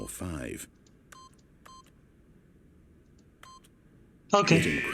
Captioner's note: beeping